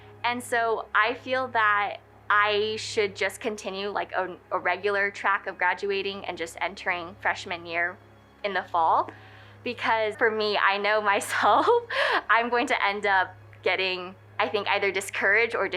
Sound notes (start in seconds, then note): 11.6 laughing